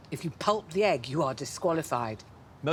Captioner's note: none